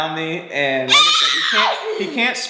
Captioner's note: vocalizing